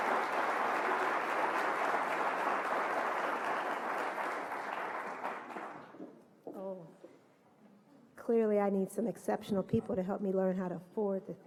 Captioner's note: applause